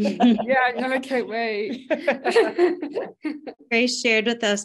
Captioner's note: laughs